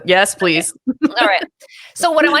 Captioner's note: laughs